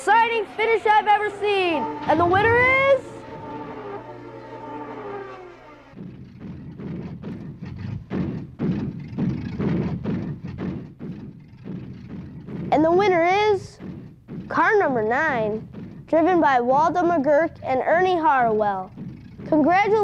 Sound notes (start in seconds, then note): 6.9 loud banging